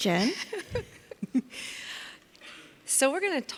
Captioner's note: laughs